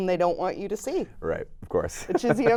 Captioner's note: laughs